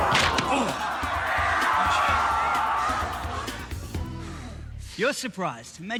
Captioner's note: both groaning; audience gasps